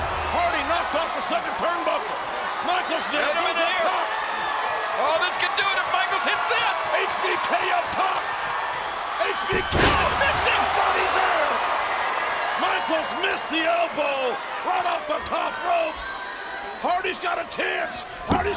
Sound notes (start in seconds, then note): 4.8 audience cheering; 9.5 body thuds; 12.2 audience cheering